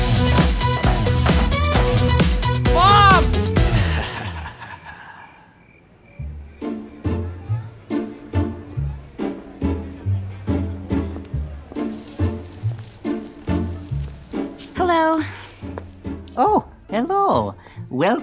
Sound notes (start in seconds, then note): 3.7 sinister laugh; 11.8 beads clinking